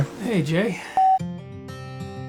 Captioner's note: screen beeps; light guitar music